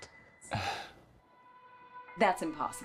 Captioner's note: gentle music; Bob scoffs